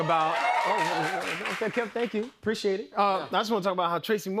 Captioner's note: cheers and applause